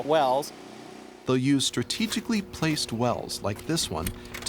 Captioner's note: voiceover